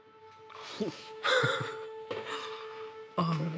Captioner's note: chuckles